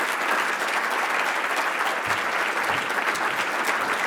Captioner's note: applause